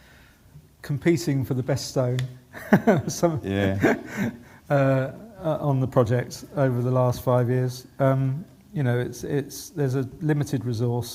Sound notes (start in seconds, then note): 2.6 laughing